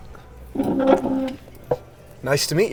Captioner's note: chair scraping